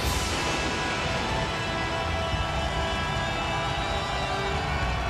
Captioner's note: audience cheers